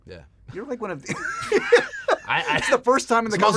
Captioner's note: laughter